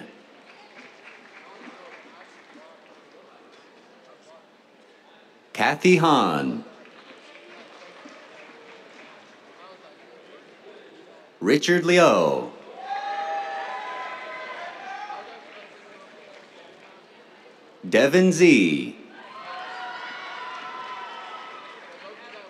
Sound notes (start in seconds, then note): 0.0 applause; 5.8 applause; 12.5 cheers, applause; 19.1 cheers, applause